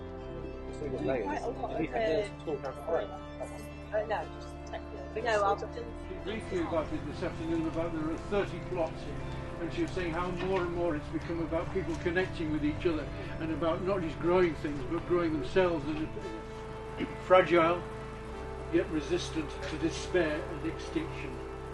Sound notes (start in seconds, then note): 0.0 peaceful music continues; 0.5 incidental chatter